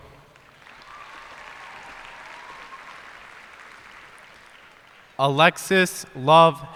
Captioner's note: cheers and applause